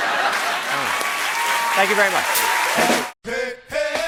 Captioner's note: cheers and applause